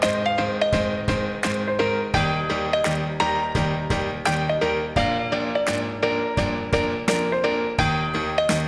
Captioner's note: applause